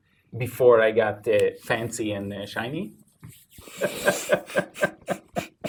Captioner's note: both laughing